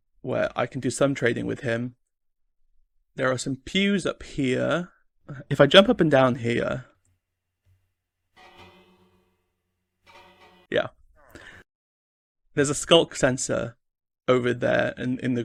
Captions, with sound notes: Where I can do some trading with him. There are some pews up here. If I jump up and down here, [bells ring] yeah, there's a skulk sensor over there and in